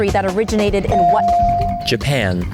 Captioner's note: bell dings